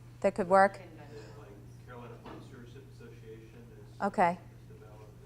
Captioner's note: voiceover